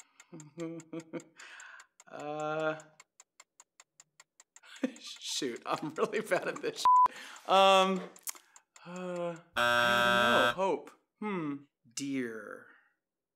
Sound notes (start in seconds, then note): 0.3 chuckles; 9.5 buzzer